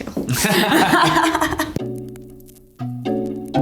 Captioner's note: Kate laughing; mellow music